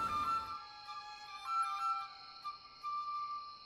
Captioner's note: nighttime crickets